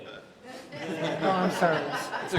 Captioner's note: laughter